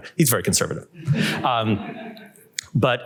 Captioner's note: laughter